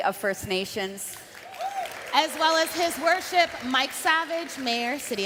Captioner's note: cheering and Applause